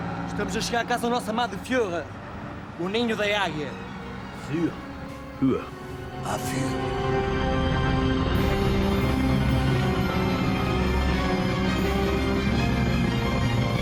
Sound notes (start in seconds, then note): 5.1 pseudo-Arabic gibberish